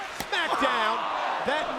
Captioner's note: hands thudding; John Cena shrieking